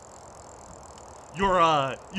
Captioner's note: whirring and wind